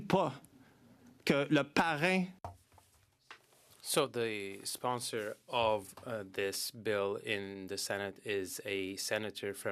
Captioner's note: speaking French